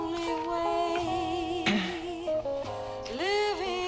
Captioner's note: Batuk